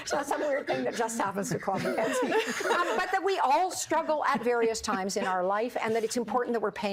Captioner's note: laughter